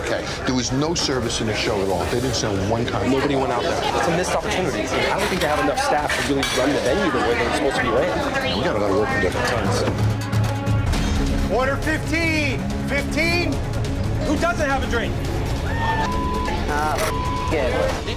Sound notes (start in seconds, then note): 15.4 customers cheer